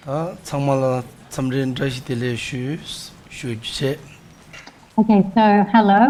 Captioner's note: monk speaks in foreign language